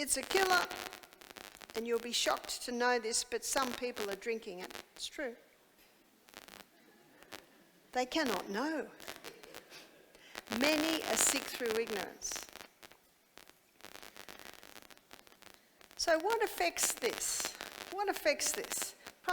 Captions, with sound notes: It's a killer and you'll be shocked to know this but some people are drinking it, it's true. (audience laughing) They cannot know. Many are sick through ignorance. So what affects this? What affects this?